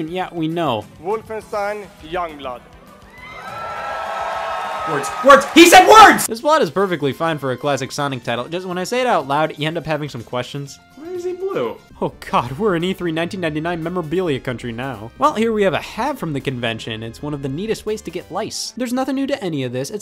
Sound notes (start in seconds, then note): 3.0 audience cheering